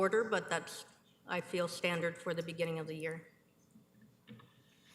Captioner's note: none